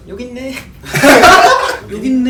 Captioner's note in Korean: 웃음